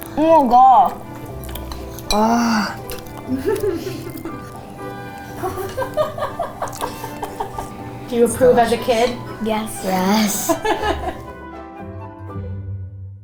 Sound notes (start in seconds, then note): 3.2 chuckles; 5.4 laughs